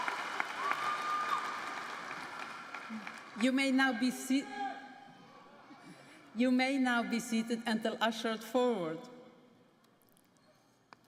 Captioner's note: applause